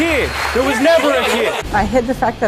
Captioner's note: audience applauding; muffled yelling